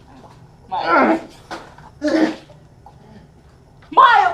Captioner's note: Miles groans